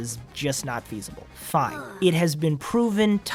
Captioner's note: annoyed sigh